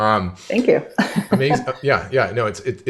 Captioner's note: laughs